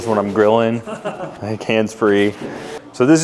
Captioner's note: laughing